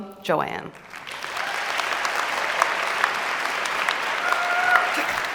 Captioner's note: applause and cheering